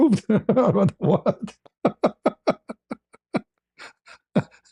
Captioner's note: ketawa